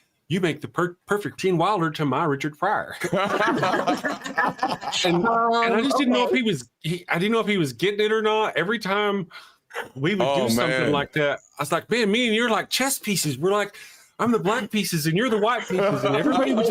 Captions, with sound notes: You make the perfect Gene Wilder to my Richard Pryor." (all laughing) And I just didn't know if he was getting it or not. Every time we would do something like that, I was like, "Man, me and you are like chess pieces." We're like, "I'm the black pieces and you're the white pieces." And everybody would